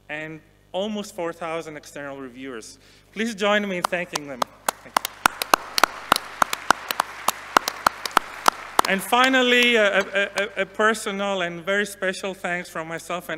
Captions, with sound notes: and almost 4,000 external reviewers. Please join me thanking them. (audience applauding) And finally, a personal and very special thanks from myself